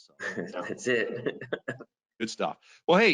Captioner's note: laughs